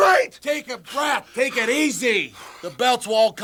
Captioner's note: Jim panting